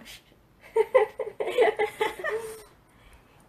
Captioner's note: laughs